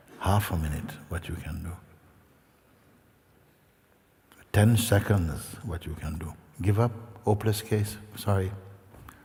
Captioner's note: none